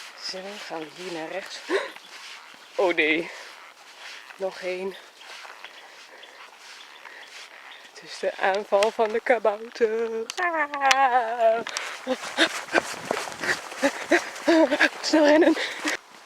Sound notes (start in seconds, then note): 11.7 pant